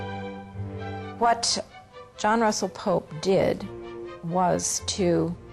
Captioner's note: voiceover